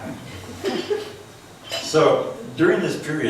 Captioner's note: laughs